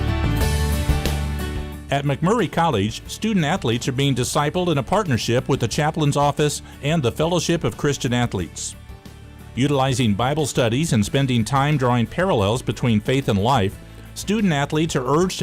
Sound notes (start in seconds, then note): 1.9 voiceover